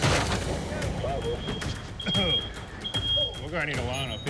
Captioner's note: smoke alarm beeping